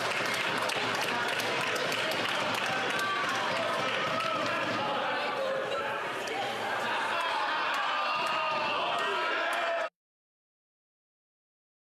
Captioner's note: some Applause